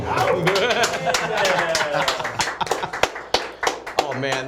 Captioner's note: applause